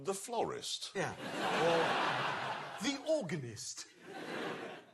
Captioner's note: laughter